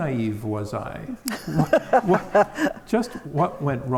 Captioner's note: all laugh